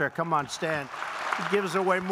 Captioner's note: applause